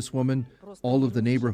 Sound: speaking Foreign Language

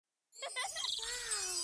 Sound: children giggling

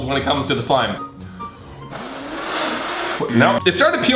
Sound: blowing

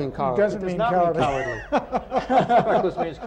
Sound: laughter

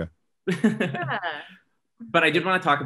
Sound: laughs

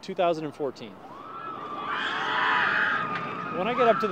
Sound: passengers scream

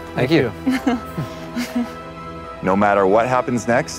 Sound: chuckles nervously

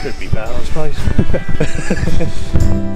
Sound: laughs

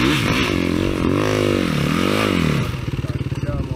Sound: engine revving

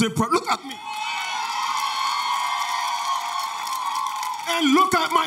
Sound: audience cheers

